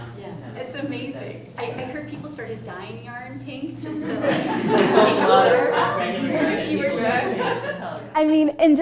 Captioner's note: laughter